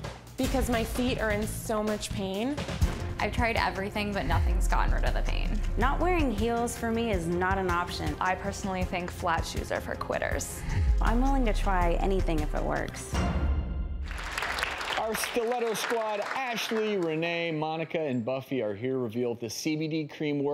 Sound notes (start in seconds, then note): 14.0 applauding